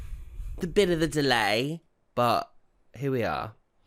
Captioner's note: English accent